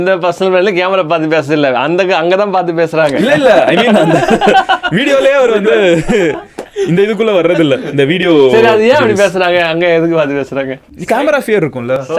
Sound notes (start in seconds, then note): 3.0 group laughs